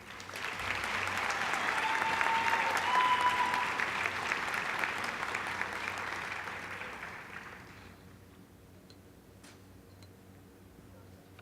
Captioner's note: applause